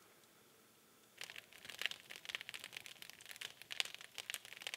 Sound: fire crackling

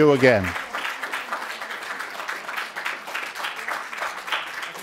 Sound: audience applause

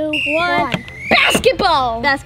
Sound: whistle blows

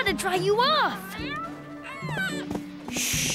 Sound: meowing

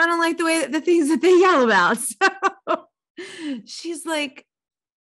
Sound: laughing

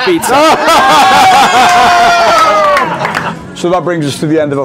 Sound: people laughing

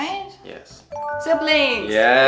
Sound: chimes

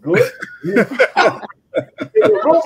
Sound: all laughing

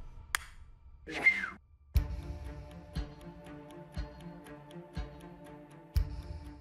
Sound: whistle trills; dramatic music

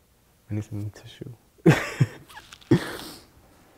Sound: chuckles

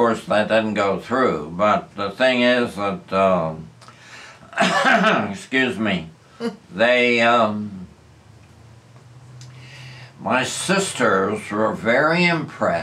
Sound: coughs

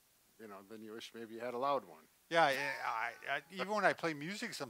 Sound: laughs

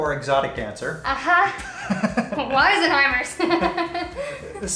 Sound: laughs

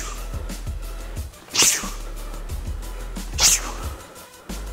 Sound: punching whoosh

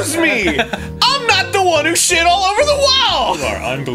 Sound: laughing

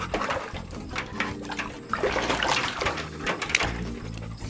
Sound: splashing and panting

